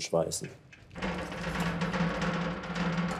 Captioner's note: rattling